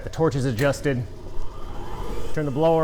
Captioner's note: switch clicks, blower whirrs